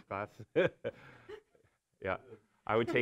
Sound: laughs

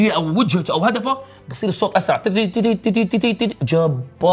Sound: imitates sound

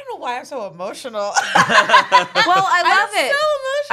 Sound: everyone laughs

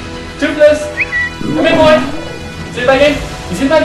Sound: whistles

